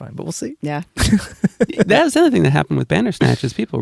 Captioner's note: laughs